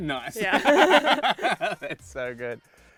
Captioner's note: laughing